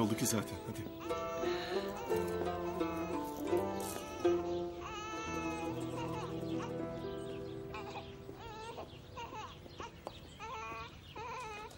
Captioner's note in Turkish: bebek ağlama sesi̇